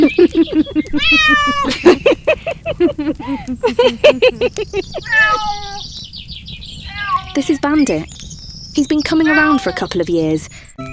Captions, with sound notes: [laughter] [a cat meows] This is Bandit. He's been coming around for a couple of years.